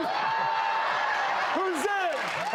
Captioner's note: cheering